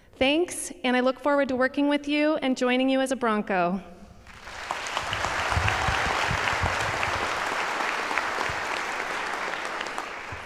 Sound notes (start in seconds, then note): 4.2 audience applauds